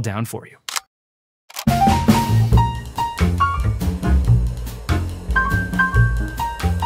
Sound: camera clicking; upbeat music

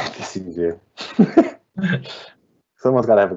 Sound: laughing

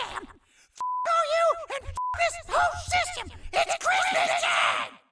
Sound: beep

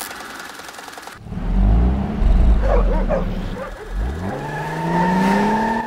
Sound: car motor roaring

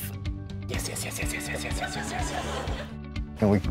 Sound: laughter

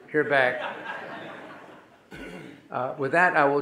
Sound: audience laughing

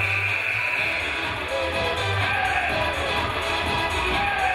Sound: game buzzer buzzes

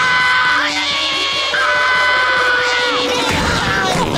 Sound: screaming

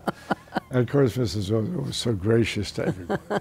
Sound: laughter

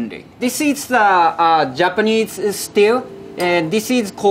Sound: text chiming

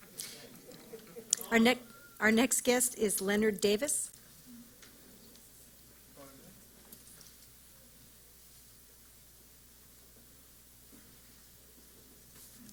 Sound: silence

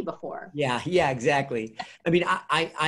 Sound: laughing

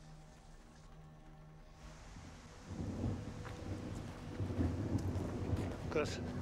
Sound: thunder rumbling

